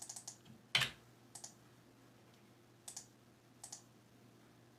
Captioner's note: mouse clicking